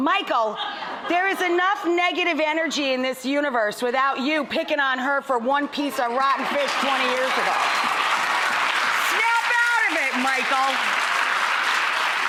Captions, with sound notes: Michael? There is enough negative energy in this universe without you picking on her for one piece of rotten fish 20 years ago. (audience applauds) Snap out of it, Michael.